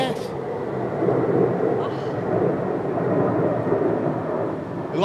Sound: jet roars

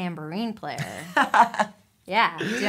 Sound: chuckling

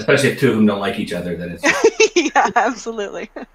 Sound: laughs

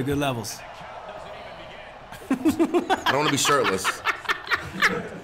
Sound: laugh

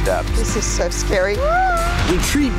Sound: screams

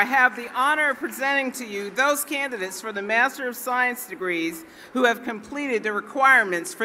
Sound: cheering and Applause

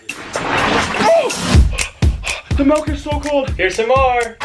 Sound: pants

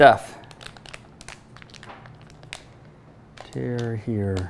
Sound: food packet rustling

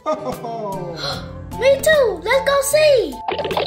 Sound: Santa Voiceover; gasps; various cartoon sound effects

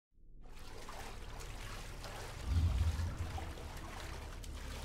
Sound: water sloshing

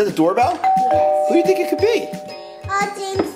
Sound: doorbell

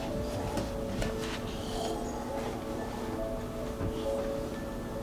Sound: snoring

